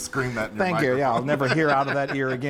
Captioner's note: laughter